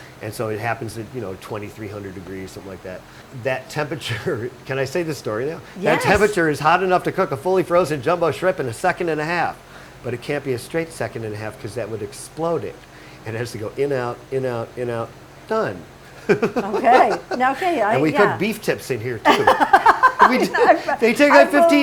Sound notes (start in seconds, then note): 19.2 laughing